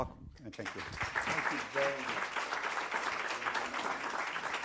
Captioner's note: applause